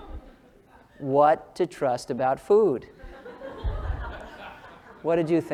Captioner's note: laugh